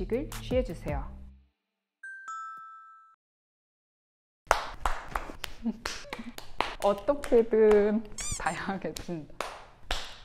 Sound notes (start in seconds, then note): 4.4 clap clap clap clap clap